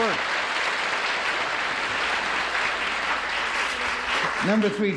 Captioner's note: applause